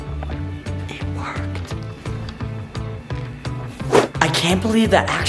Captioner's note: whispering